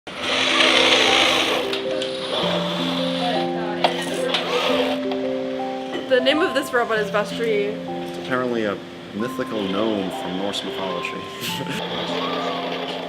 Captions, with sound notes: (robot whirring) - The name of this robot is Vestri. - Apparently a mythical gnome from Norse mythology.